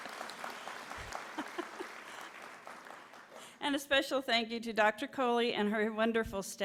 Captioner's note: laughter